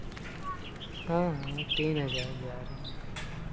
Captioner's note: whispering